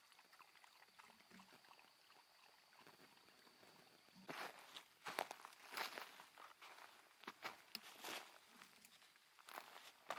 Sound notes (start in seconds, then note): 0.2 Peaches slurping; 4.4 footsteps tapping